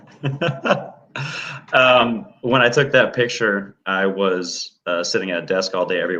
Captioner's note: laughter